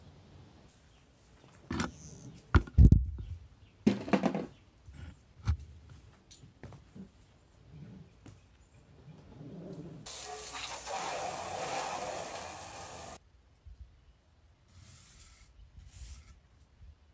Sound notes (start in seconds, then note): 1.7 thudding; 5.3 hose hitting the ground; 10.0 water spray off metal; 14.8 scrubbing